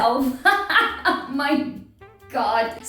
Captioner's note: laughing